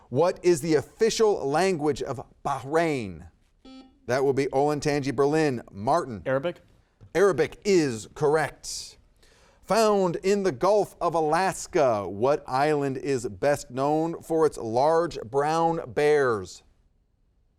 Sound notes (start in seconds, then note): 3.6 buzzer beeping